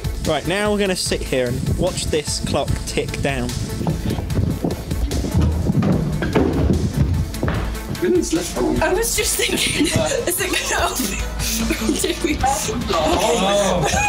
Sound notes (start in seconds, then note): 11.5 laughing